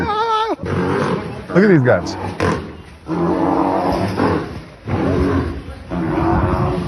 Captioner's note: rhinos grunting and roaring